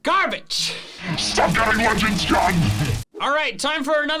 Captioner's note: Devilish voice rages